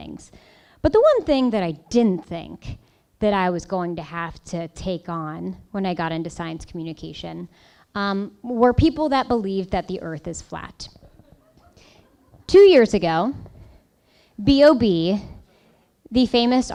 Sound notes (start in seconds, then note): 10.9 laughing